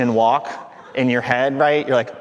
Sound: audience laughing

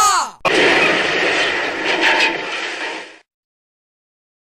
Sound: c r a s h!

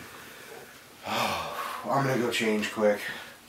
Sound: sighs

